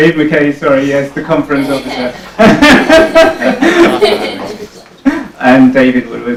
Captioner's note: laughs